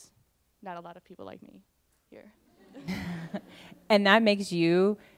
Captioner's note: laughter